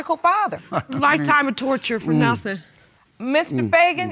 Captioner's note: chuckles